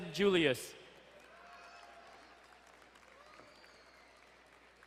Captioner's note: distant cheering